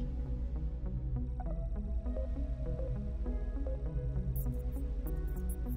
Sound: computer beeping and trilling

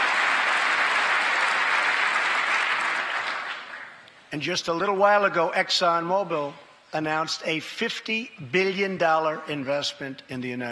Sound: cheers and applause; applause

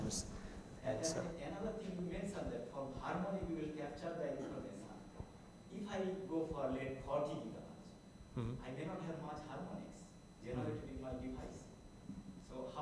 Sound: audience comments

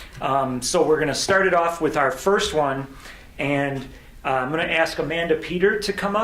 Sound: none

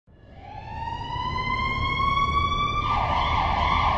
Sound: sirens blaring

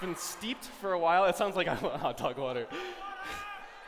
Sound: laughs

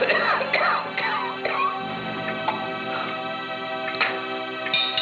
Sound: coughing and choking

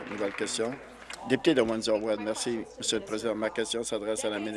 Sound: applause

